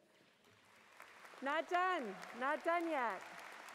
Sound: applause

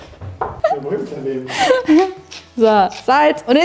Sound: laughing

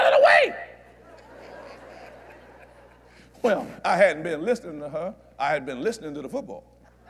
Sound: laughter

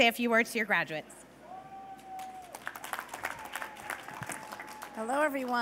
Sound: cheers and applause

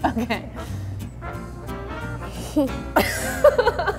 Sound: laughs

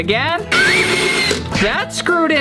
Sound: screwing

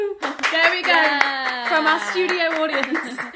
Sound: applause

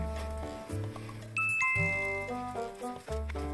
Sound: chime

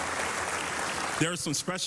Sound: applause

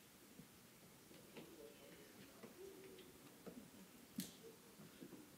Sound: people murmuring

